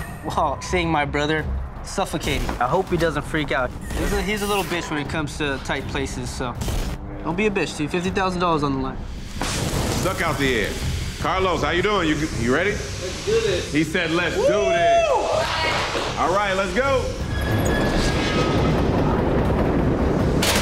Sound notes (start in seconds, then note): 9.5 dramatic music; 15.7 hands clapping; 16.5 metal squealing; 17.7 dramatic music